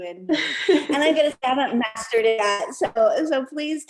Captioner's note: laughter